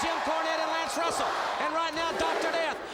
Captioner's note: crowd cheering